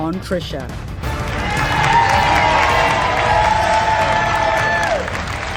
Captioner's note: audience applauding